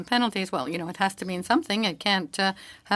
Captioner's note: speaking French